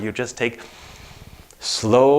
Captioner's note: breaths in deeply